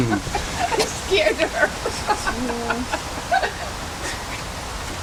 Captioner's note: woman Laughing